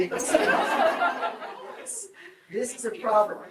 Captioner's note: group laughs